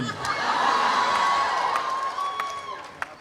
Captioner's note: audience cheering